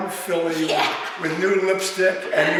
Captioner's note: laughing